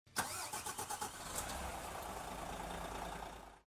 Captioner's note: engine revving